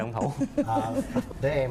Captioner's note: laughs